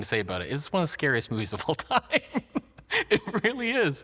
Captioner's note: laughs